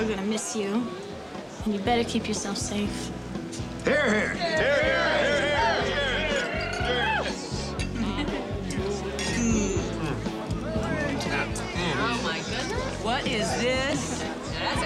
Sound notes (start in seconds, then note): 4.9 in Unison